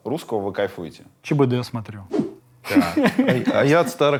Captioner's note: laughs